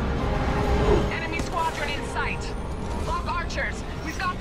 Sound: radio; radio

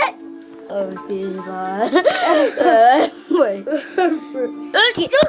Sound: laughing

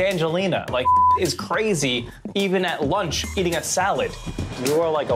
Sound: beep

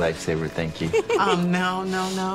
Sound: Grace giggles

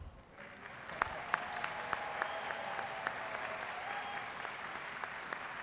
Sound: audience cheering and applauding

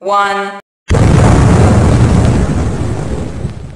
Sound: huge Explosion

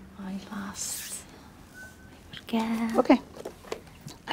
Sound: faintly speaking

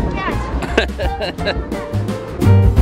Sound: laughing; jazzy piano music

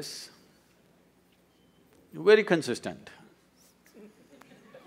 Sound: laughs

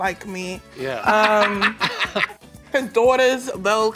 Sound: laughing

